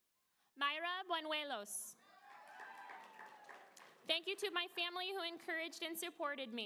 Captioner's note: applause